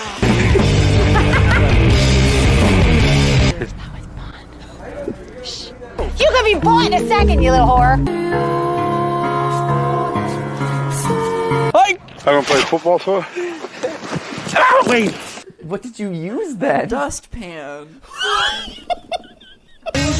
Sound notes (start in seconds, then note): 0.0 laugh and rock and roll disc; 3.8 whispering